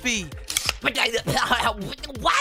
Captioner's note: sputtering